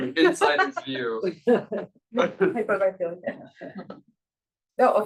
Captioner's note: panelist laughs